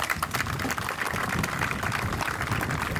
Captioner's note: applause